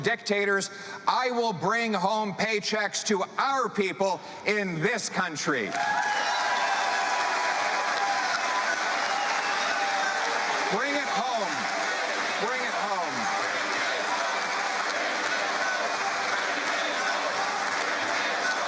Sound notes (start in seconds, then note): 9.9 cheering